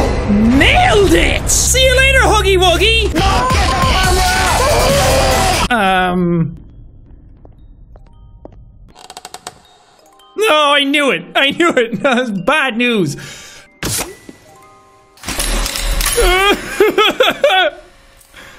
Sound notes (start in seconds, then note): 4.2 screaming in the back; 16.2 whining in fear